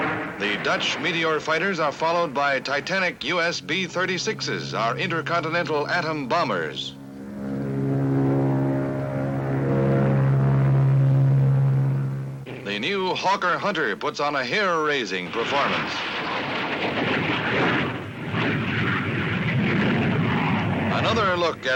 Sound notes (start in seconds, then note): 7.2 aircraft noise; 16.3 aircraft noise